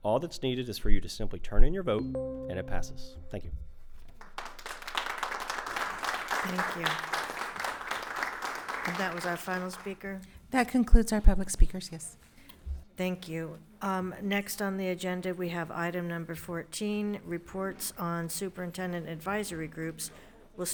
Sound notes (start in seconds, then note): 2.0 timer dinging; 4.2 attendees applauding